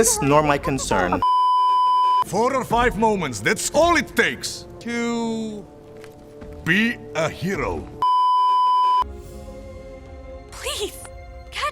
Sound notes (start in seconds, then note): 1.2 beeeeeeeeeeeep; 8.0 beeeeeeeeeeeep